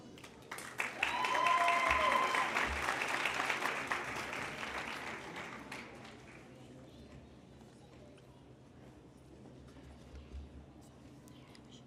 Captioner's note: applause